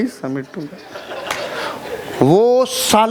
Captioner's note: laughing